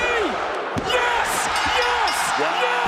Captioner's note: bell rings